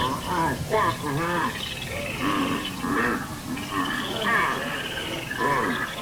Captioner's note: muffled struggling and insect sounds